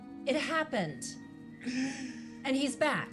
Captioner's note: Mitch laughs